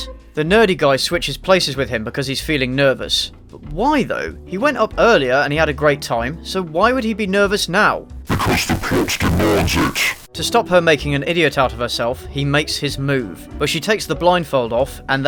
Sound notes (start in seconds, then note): 8.2 demonic voice